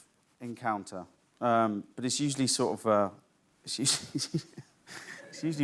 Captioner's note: laughs